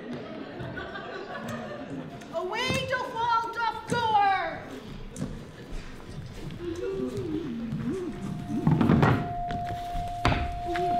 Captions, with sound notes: Away doth wall doth go [glassy metallic sounds]